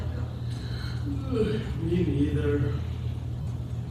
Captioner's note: yawns